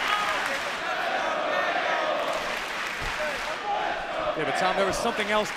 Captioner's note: fans chanting